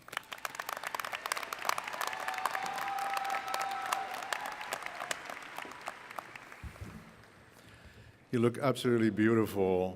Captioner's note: applause